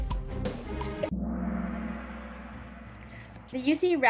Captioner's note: gong